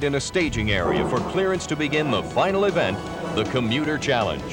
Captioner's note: engine revving